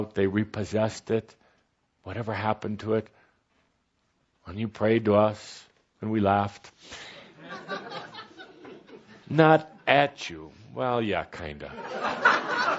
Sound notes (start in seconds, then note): 7.4 some laughter